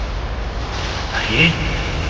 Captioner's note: thunder